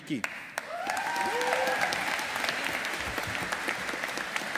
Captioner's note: audience applauding